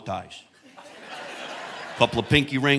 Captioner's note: audience laughing